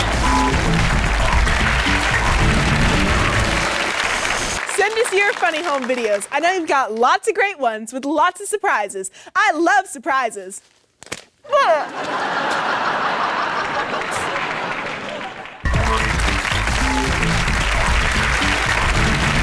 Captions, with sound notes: (rock music and applause) - Send us your funny home videos! I know you've got lots of great ones with lots of surprises. I love surprises! (startled grunt and audience laughter) (jazz music and applause)